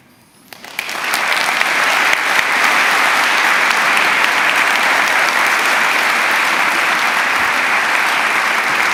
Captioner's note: applause